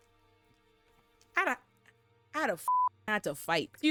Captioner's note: beep